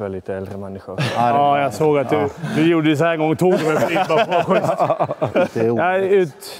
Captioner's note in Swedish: skratt